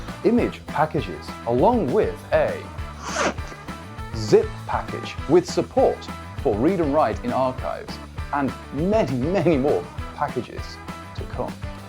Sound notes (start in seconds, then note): 2.9 zip